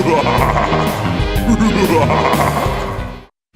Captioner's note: evil laughter